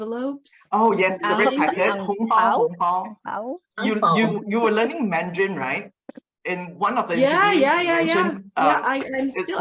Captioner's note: in mandarin